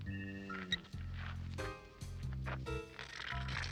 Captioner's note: phone beeps; can spluttering